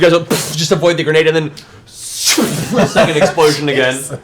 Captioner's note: arrow noises